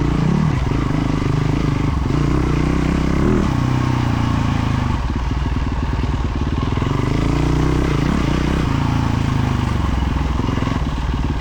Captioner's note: engine revving